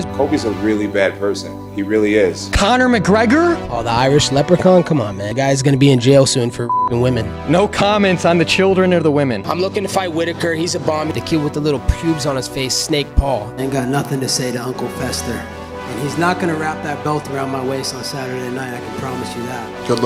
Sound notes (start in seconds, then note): 5.3 beep